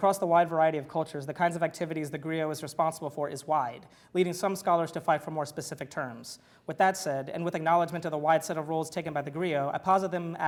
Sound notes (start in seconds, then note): none